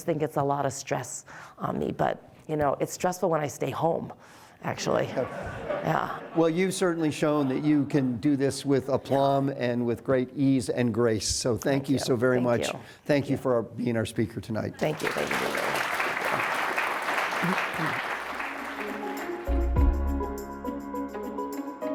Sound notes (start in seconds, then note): 4.9 audience laughing; 14.9 audience applauding; 18.5 calm instrumental music